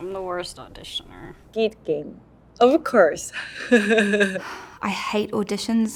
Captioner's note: laughs